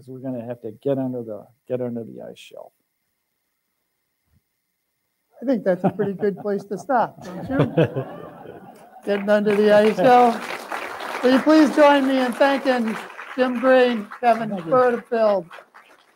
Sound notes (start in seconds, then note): 7.1 laughing; 9.0 applause